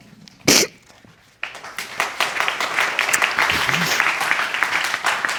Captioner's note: crowd applauding